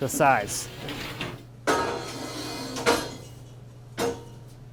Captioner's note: metal scraping